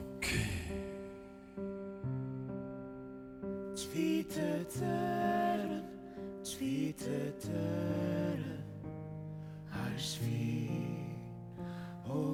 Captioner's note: Ukrainian